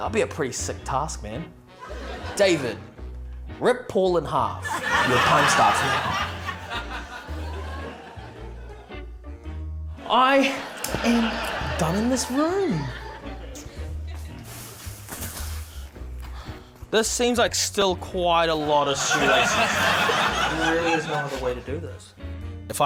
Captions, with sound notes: - That'd be a pretty sick task, man. David, rip Paul in half. Your time starts now. (LAUGHTER) I am done in this room. This seems like still quite a lot of shoelaces. There really is no other way to do this.